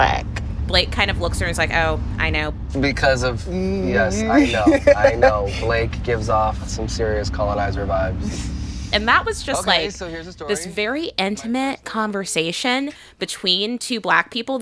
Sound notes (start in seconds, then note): 4.3 As Wanda Shepard, laughter